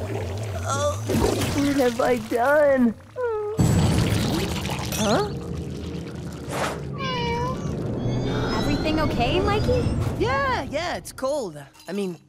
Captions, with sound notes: Oh, what have I done? Huh? [meowing] Everything okay, Mikey? Yeah, yeah, it's cold I mean cool.